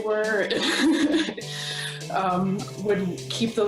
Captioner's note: laughing